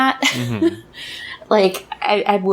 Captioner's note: laughs